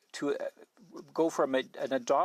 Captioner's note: speaking French